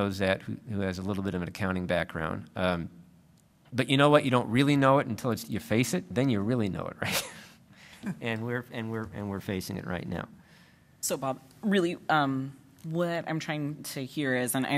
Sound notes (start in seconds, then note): 8.1 laughs